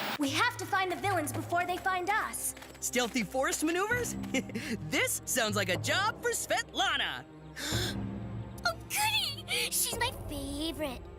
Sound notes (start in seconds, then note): 7.5 Mike Inhaling